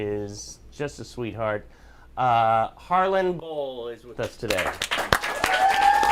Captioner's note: applause